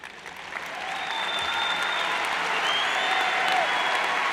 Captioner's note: cheers and applauds